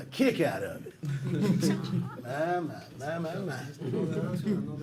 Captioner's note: laughter